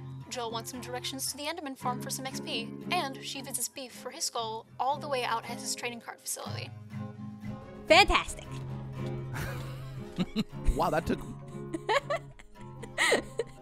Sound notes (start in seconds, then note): 9.3 laughs